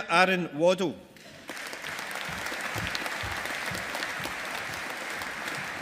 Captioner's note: audience applauding